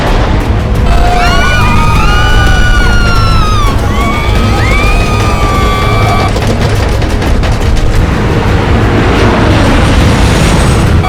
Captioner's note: screaming